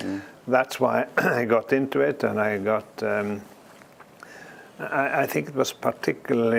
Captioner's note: cough